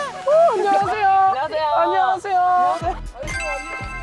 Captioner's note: peep